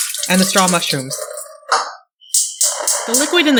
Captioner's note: sound of the stove turning on